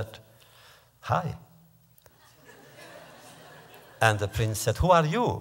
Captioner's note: laughter